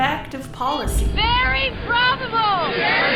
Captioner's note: voiceover